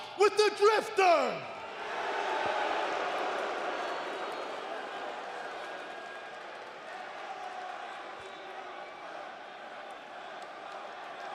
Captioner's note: crowd cheering